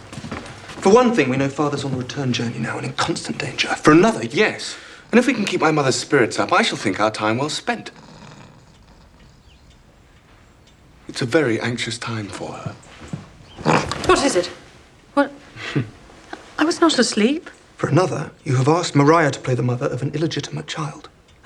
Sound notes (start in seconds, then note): 9.3 snoring; 13.0 pug grunts